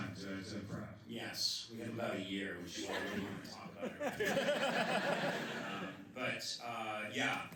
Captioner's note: laughter